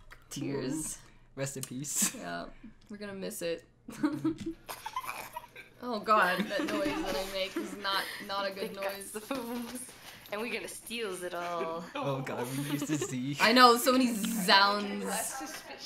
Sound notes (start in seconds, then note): 4.0 chuckles